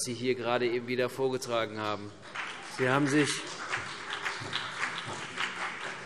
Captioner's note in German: Beifall CDU und BÜNDNIS 90/DIE GRÜNEN